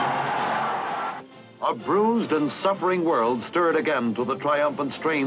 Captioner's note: voiceover